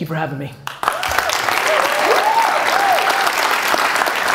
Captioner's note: applause, cheering